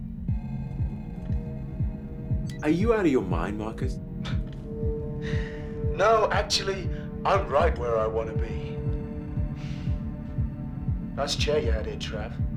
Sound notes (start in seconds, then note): 2.4 beeps; 4.2 soft chuckles